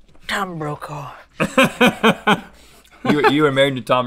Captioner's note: Rhett laughs